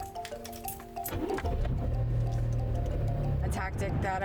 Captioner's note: door closes; car starts